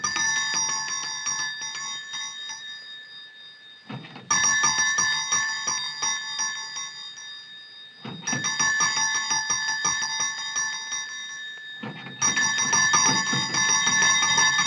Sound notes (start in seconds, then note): 1.4 bell ringing